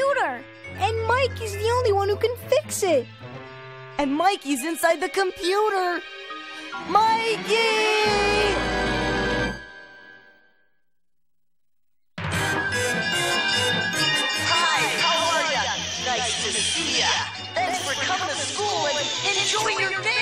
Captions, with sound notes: - AND MIKEY'S THE ONLY ONE WHO CAN FIX IT. - AND MIKEY'S INSIDE THE COMPUTER. MIKEY! [bell clanging] - HI, HOW ARE YA? NICE TO SEE YA. THANKS FOR COMING TO SCHOOL, AND ENJOY YOUR DAY.